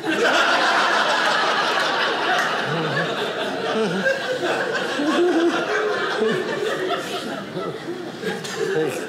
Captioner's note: audience laughing